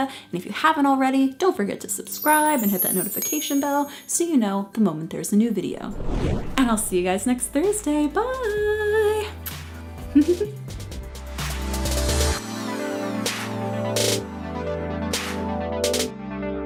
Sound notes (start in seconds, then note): 5.8 whoosh; 10.2 giggles; 11.5 upbeat electronic music